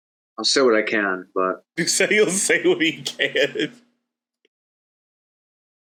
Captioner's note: laughs